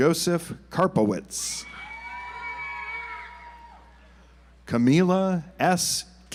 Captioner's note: audience applauds